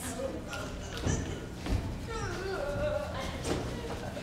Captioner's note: Hortensio grunts